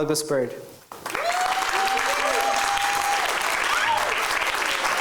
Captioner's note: cheering